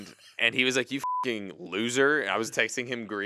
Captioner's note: beep